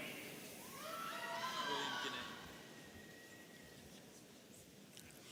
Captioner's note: audience cheering